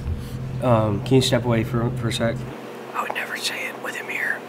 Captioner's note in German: whispers